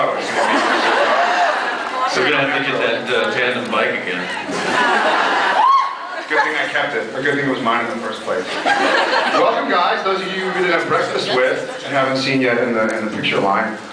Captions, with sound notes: It’s going to be um... [laughs] Supernatural-- So we’re gonna have to get that uh tandem bike again. [laughs] Good thing I kept it. Or good thing it was mine in the first place. [scattered laughs] Welcome guys, those of you who we didn’t have breakfast with and haven’t seen you in the -- in the picture line.